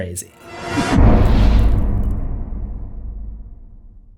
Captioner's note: impact